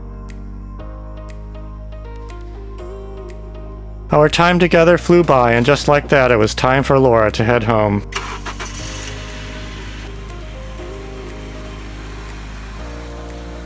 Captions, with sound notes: Our time together flew by, and just like that it was time for Laura to head home. (Car engine starting.)